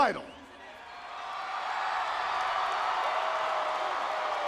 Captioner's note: audience cheering